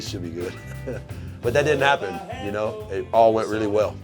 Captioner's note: chuckles